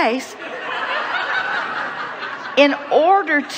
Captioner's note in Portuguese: risos do público